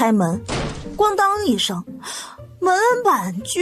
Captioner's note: bang!